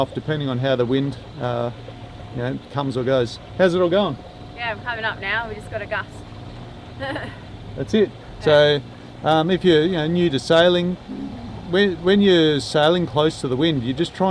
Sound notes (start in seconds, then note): 7.0 laughs